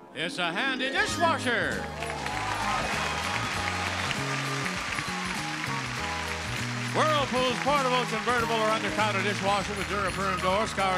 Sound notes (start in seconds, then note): 1.8 audience cheering; 2.3 exciting music